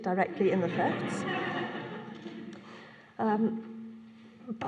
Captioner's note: laughter